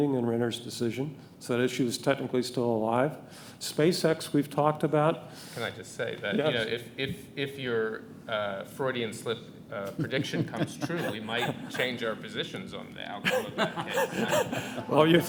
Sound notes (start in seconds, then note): 9.8 panelists laughing; 13.2 audience laughing